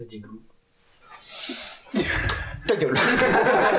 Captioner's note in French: Porte qui s'ouvre; Rires